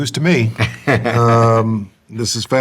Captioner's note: laughs